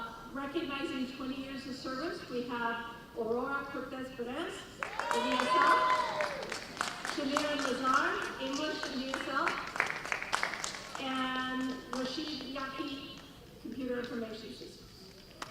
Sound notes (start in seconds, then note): 4.8 cheering